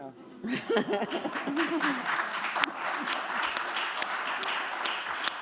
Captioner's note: applause